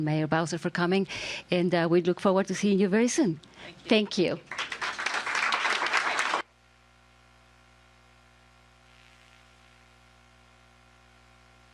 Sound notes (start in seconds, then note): 4.4 applause